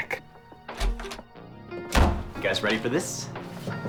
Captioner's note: door Opens